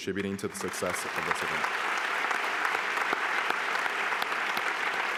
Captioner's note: applause